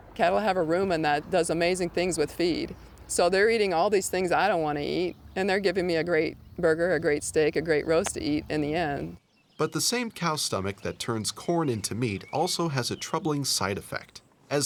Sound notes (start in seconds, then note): 9.8 voiceover